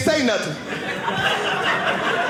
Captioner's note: audience laughing